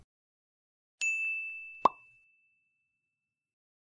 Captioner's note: ding